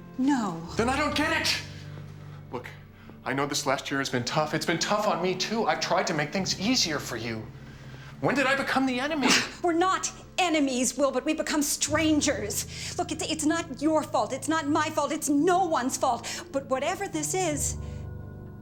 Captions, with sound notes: No. Then I don't get it! Look, I know this last year has been tough. It's been tough on me, too. I've tried to make things easier for you. When did I become the enemy? (SCOFFS) We're not enemies, Will, but we've become strangers. Look, it's not your fault. It's not my fault. It's no one's fault. But whatever this is...